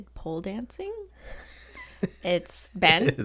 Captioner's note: laughs